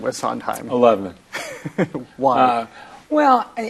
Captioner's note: laughs